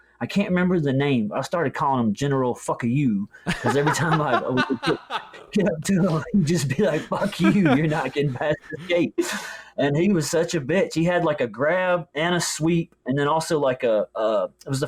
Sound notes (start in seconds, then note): 3.4 laughs